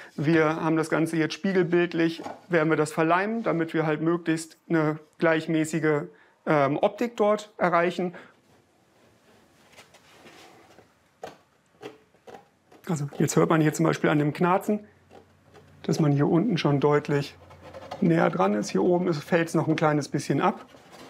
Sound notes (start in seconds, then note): 11.7 creaking